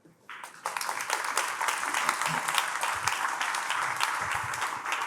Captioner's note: attendees applauding